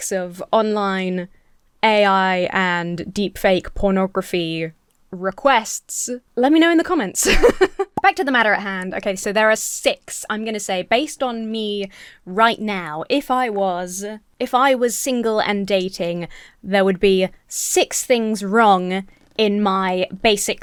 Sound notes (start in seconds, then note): 7.2 laughs